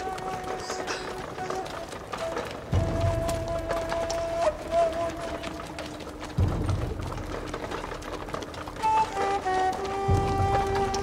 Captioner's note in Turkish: Kağnı Sesleri